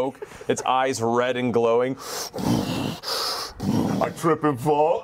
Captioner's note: huffing